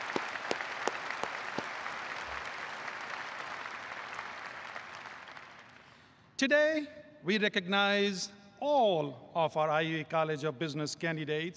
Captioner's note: applause